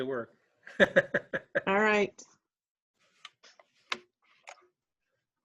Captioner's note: laughing